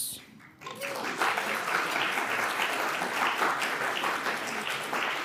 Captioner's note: audience clapping